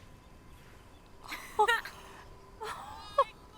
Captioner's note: both chuckling